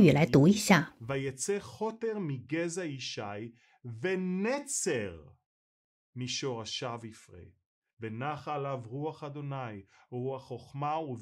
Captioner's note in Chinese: 用希伯来语读经